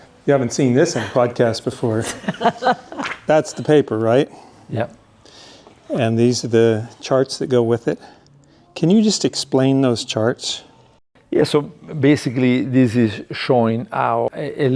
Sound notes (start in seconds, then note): 1.8 laughing; 3.1 paper flaps